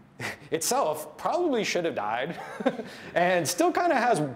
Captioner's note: laughs